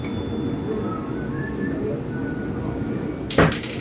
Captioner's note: register bell; whistle; coin drop